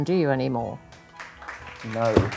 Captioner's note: crowd applauding